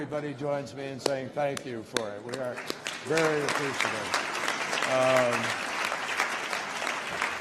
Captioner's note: applause